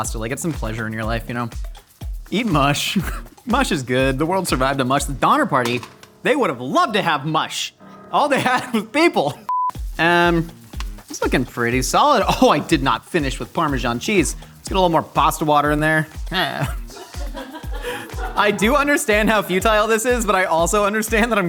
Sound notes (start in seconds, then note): 16.4 laughing